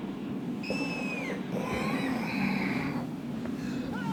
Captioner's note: Frankie hears screaming noises in his dream